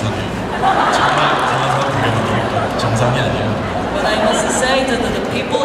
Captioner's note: audience laughing